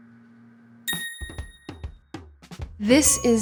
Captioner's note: phone dinging; upbeat music